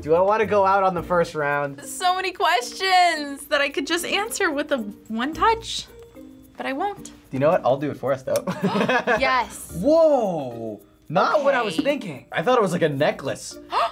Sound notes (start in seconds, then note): 8.5 laughs; 13.8 gasps